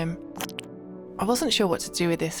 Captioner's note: squish